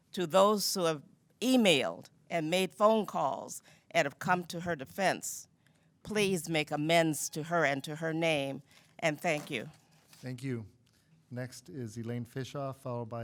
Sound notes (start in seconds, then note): 7.9 timer buzzing